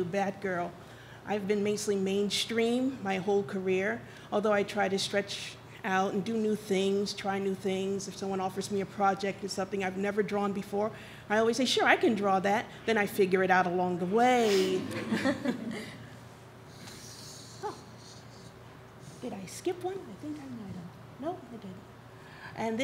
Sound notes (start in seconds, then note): 14.7 audience laughs